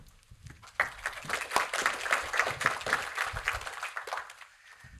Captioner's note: audience applauding